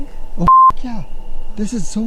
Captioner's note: beep